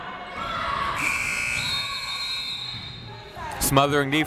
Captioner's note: buzzer ringing; whistle tweeting